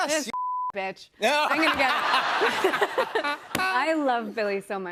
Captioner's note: laughter